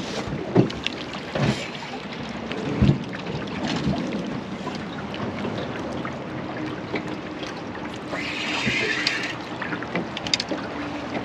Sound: water flowing; reel cranking

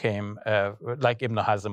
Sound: speaking foreign language

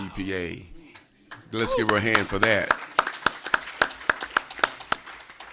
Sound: applause

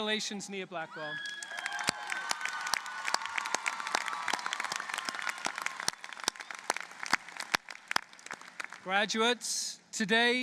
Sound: applause

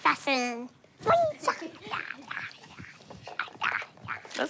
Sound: jabbering

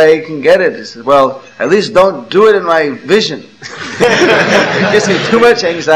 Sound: laughter

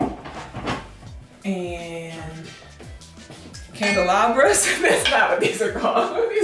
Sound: laughs

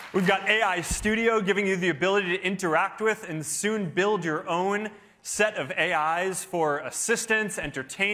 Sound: cheering

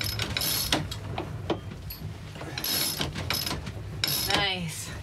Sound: pulley ratcheting

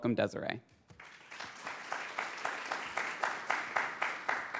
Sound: audience applauds

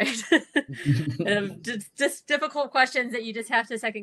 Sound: laugh

